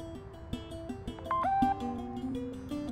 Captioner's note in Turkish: Mesaj Sesi